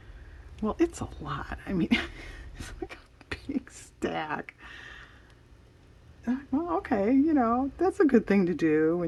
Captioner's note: laughs